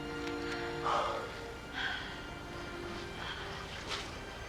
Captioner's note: breathing heavily